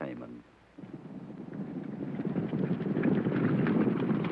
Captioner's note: hooves pounding